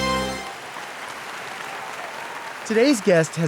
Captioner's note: audience applauding